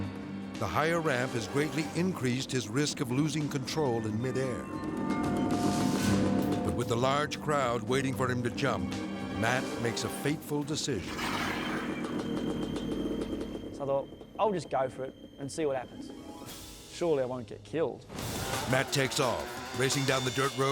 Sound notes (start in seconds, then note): 4.9 dramatic music; 11.7 motor rumbling